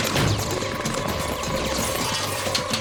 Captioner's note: bullets ricocheting; glass shattering